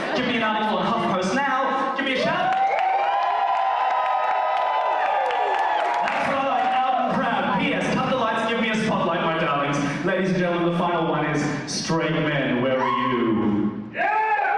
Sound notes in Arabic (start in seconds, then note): 4.8 هتاف وصراخ